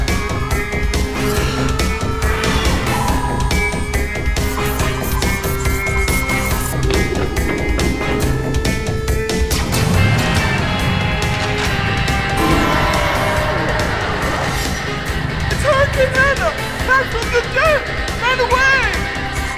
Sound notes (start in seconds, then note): 0.2 crowd panicking; 9.9 engine roar; 12.4 Red Helmets scream in terror